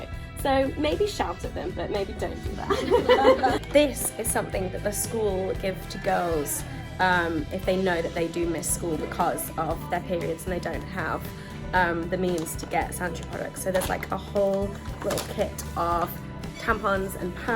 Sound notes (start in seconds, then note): 2.4 laughs